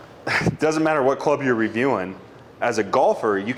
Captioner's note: chuckling